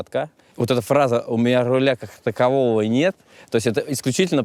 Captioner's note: in Katamaranov's voice